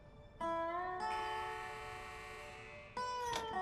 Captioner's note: birds chirping; door buzzing open; door opens